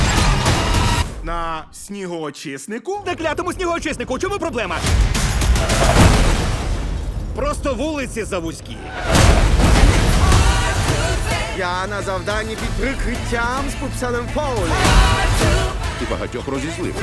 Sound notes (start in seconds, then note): 5.4 horn blaring